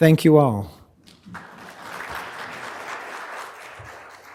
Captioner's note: audience clapping